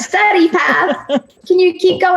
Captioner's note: laughing